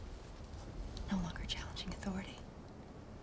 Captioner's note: none